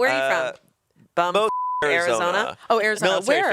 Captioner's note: beep